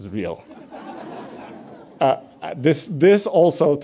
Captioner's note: audience laughs